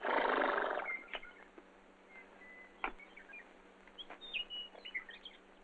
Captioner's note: chirping